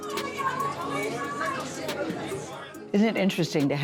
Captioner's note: background chatter